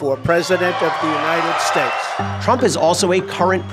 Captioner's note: cheering